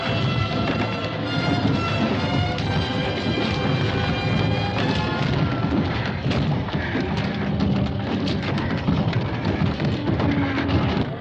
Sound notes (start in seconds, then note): 4.6 banging; 4.6 music fades out; 8.8 furniture rattling